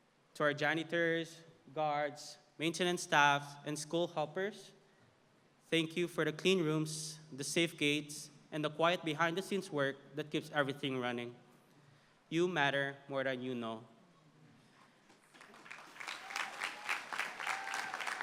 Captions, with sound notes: To our janitors, guards, maintenance staff and school helpers. Thank you for the clean rooms, the safe gates, and the quiet, behind the scenes work that keeps everything running. You matter more than you know. [applause]